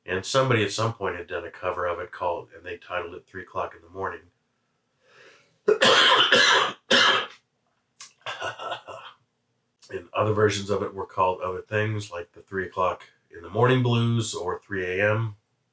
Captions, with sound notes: and somebody at some point had done a cover of it called—and they titled it—"Three O'Clock In The Morning." [cough break] And other versions of it were called other things, like "The Three O'Clock In The Morning Blues" or "3 a.m."